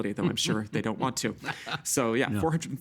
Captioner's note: chuckling